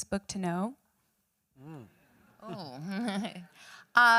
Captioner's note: chuckles